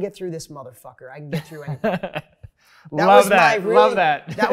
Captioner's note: laughs